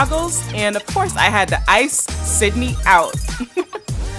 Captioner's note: laughs